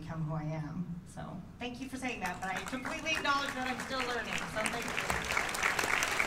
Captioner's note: applause